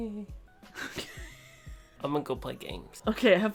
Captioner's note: laughs